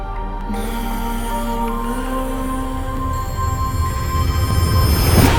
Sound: phones start ringing one after another

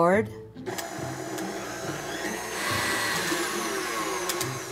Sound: mixer whirling

